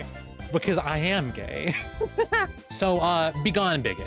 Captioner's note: lesbian laughing